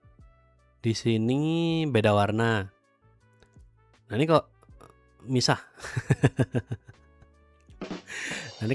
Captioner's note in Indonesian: tertawa